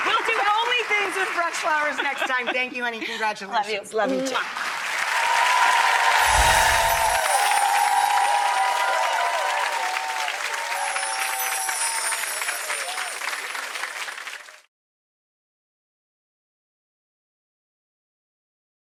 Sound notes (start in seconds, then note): 5.5 cheering; 6.0 bells tingling